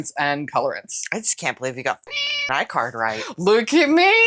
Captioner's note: meow